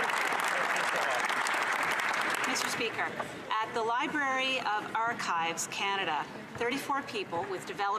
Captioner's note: some Applause